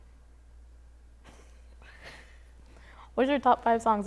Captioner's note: chuckling